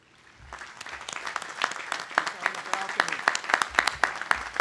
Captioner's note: audience applauding